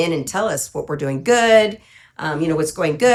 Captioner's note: none